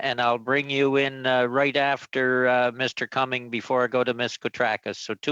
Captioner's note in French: voix de l'interprète